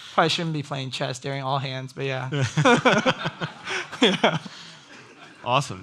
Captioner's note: everyone laughs